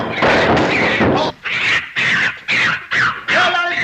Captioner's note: monkey squeaks